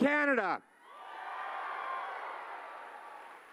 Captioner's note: cheering